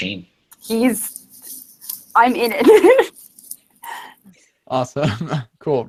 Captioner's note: giggles